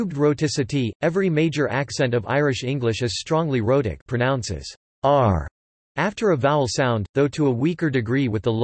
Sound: pronounces "r" after a vowel sound

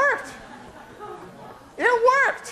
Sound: laughter

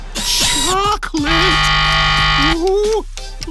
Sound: buzzer ringing

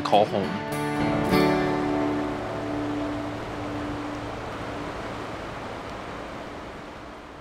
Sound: water and air rushing

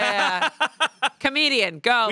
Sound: laughs

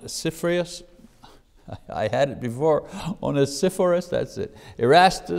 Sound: laughs

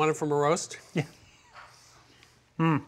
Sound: laughing

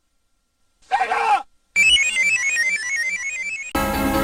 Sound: screaming; descending video game sounds; 32-bit console startup music

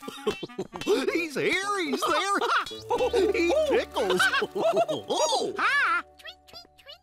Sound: chuckles; chuckling

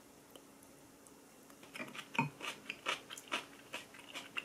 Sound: crunchy

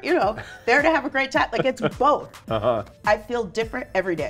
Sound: laughs

